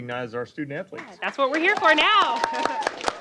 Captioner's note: applause